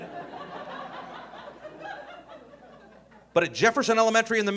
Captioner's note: audience laughing